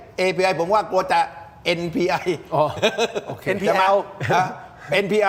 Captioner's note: laughs